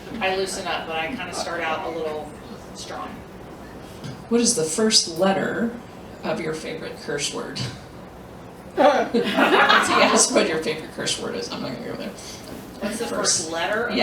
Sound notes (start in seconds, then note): 9.1 laughter